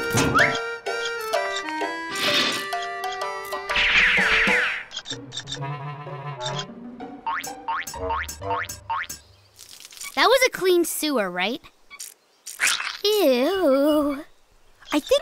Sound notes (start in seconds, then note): 3.4 squeaking